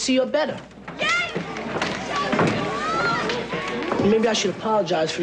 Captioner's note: cheering